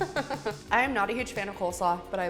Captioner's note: laughs